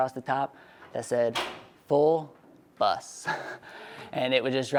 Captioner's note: laughing